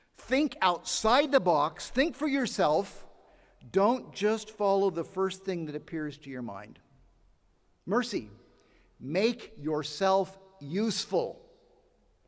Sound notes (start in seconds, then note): none